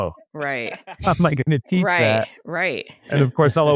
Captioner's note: laughs